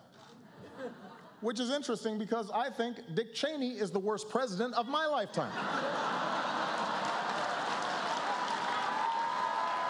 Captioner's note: laughter